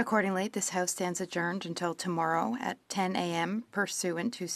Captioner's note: speaking French